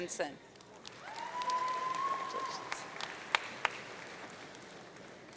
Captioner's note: audience cheering